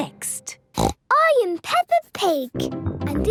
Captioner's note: snorts